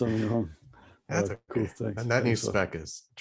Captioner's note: laughs; laughs